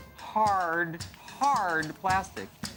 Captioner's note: none